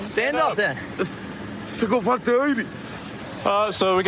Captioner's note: speaking spanish